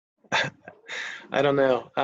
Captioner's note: chuckles